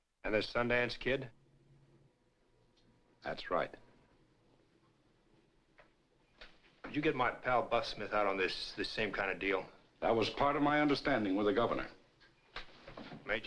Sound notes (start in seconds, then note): none